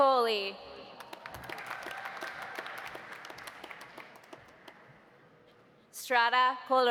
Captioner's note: audience applauding; audience cheering